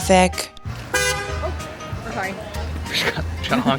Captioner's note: car horn honks